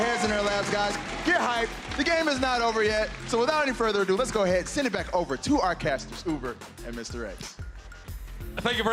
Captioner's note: cheers and applause